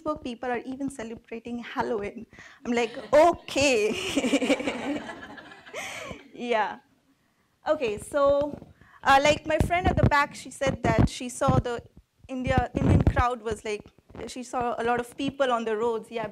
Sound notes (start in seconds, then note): 3.9 laughs